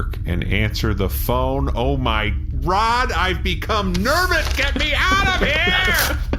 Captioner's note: screaming